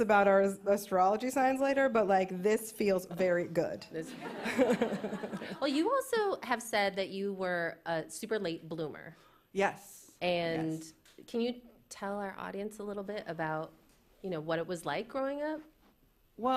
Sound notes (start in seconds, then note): 4.0 laughter